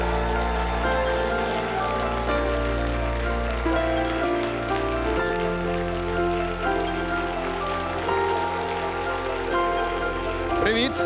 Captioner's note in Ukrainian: оплески